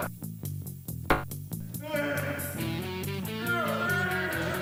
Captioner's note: dart thunks; wails